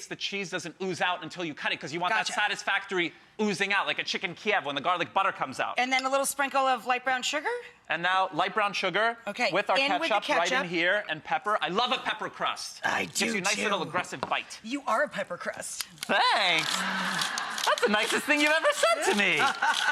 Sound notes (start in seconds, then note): 16.3 audience laughing